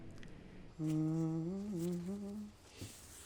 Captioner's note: humming